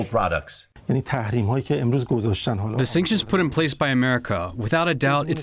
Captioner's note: through translator